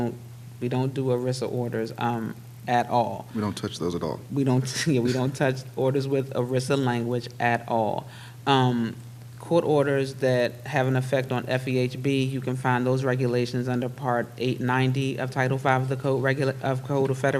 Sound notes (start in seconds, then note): 3.4 chuckles